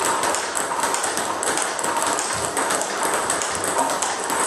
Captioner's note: ball ping pong hitting continues